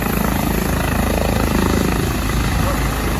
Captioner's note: blades whirling, picking up speed